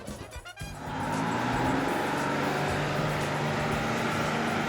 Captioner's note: bus engine rumbling